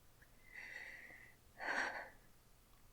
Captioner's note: shaky breath